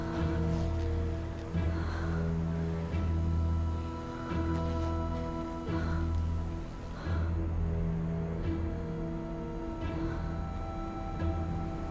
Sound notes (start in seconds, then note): 4.0 Googly breathing heavily